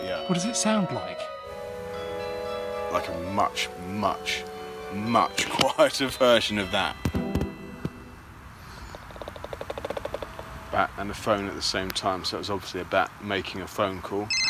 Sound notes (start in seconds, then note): 8.9 clicking - interruption